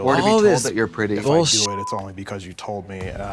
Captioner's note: beep